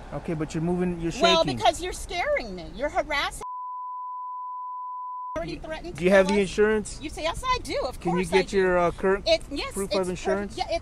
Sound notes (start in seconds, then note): 3.4 continuous beep